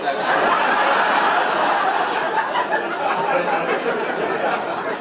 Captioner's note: audience laughing